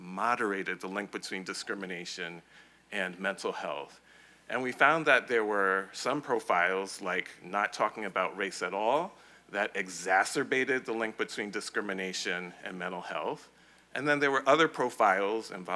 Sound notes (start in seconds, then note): none